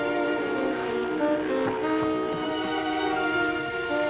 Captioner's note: ship horn